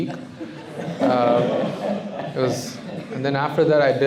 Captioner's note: laughter